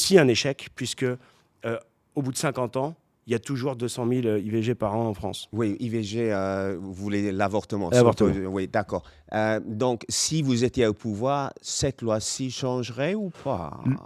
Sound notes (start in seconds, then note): 6.8 French